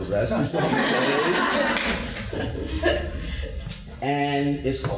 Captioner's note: audience laughter